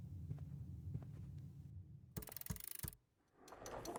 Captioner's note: keyboard clacking